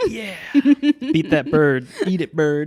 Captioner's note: laughing